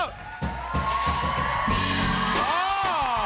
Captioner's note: cheers and applause